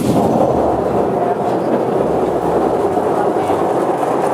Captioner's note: machine whirring